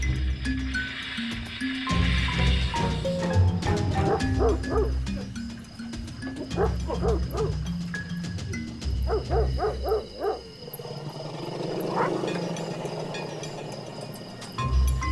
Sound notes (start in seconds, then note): 3.9 dog barking; 9.0 barking; 11.5 elephants growling